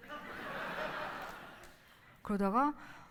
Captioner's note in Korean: 웃음